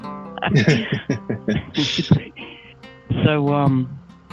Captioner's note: laughing